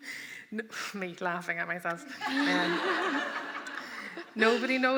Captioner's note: laughter